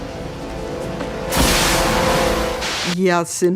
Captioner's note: air gushes